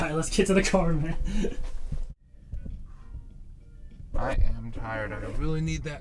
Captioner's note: laughs